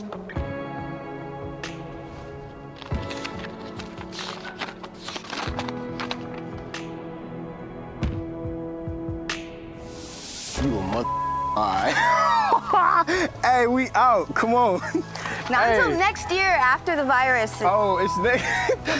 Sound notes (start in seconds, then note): 2.6 paper opening; 11.0 beep; 11.8 laughs